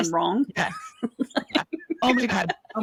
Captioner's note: laughs